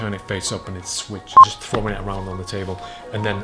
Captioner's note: beeping